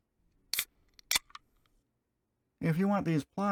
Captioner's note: beer opening sound